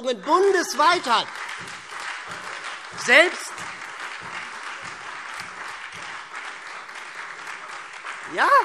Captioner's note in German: Beifall SPD und Freie Demokraten - Zurufe CDU und BÜNDNIS 90/DIE GRÜNEN